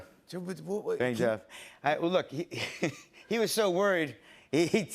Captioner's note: chuckles